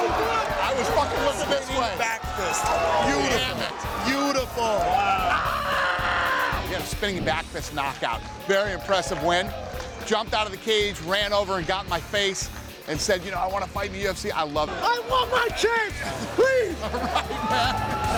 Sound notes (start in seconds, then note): 4.7 screams; 16.0 Dana laughs